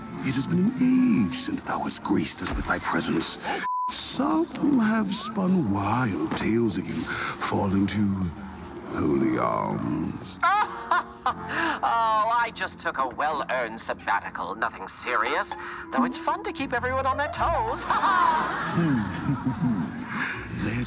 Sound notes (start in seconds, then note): 3.6 beep; 10.4 laughing; 17.9 chuckling